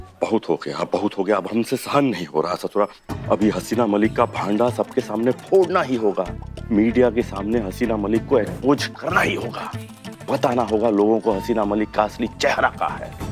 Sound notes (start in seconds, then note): none